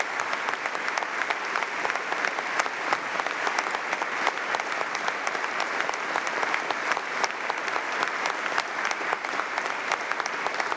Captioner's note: applause